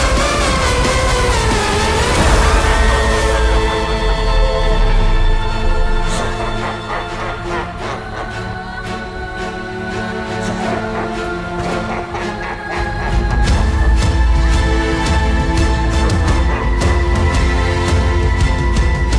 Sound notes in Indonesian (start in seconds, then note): 6.2 Tertawa jahat; 7.3 Masyarakat merintih kesakitan